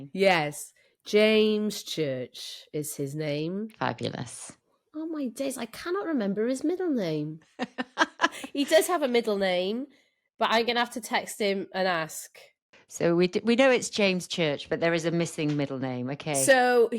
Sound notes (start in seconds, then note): 7.5 laughter